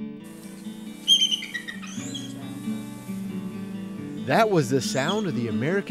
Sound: eagle whistling

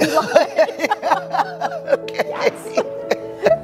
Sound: both laugh

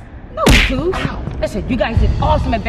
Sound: smack sound

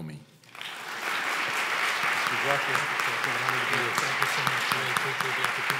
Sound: audience applause

